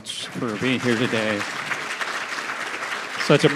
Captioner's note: audience applauding